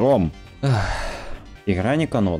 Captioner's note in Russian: выдох